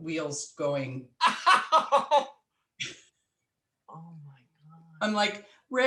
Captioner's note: laughing